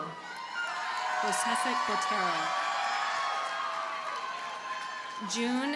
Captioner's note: audience cheers and applauds